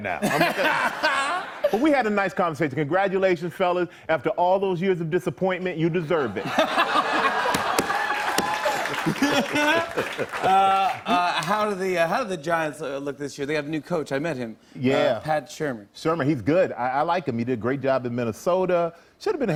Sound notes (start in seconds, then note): 6.3 laughter